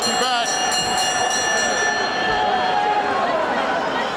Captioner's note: bell ringing